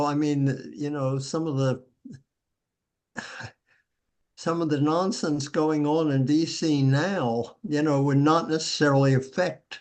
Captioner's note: chuckles